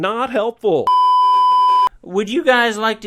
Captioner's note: beeeeeep